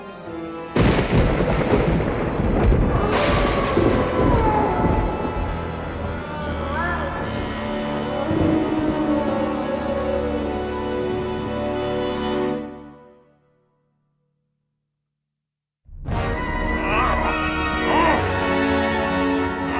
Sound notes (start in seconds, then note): 0.7 thunder crashes; 2.8 wolf howls; 16.0 eerie music